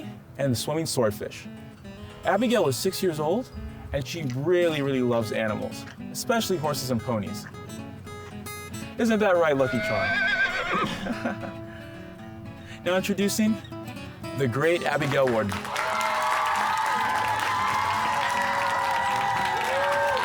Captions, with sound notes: and Swimming Swordfish. Abigail is six years old and she really, really loves animals, especially horses and ponies. Isn't that right, Lucky Charm? (horse neighs) Introducing the great Abigail Wharton. (clapping and cheering)